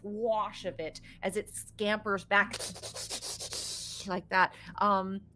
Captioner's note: hisses